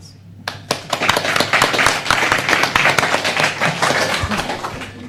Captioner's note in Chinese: 拍掌; Applause